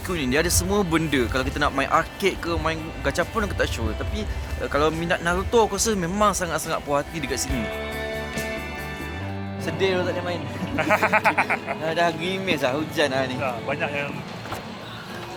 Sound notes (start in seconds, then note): 10.5 laugh